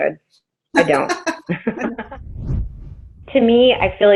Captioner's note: laughter